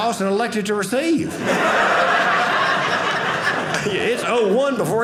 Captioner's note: audience laughing